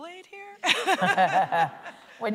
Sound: laughter

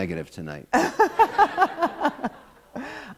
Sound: laughter

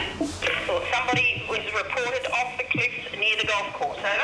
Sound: walkie talkie

